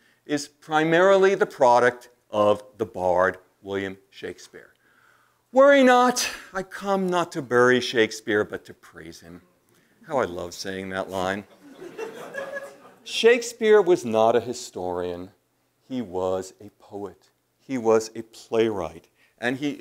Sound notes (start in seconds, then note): 11.5 laugh